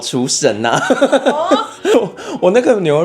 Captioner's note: laughs